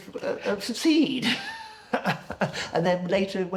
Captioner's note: laughing